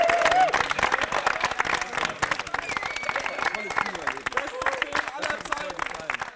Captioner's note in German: Applaus, Jubel